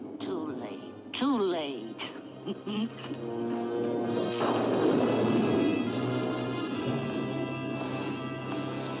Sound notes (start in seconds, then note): 2.4 laughing; 4.1 loud thunder; 4.4 suspenseful music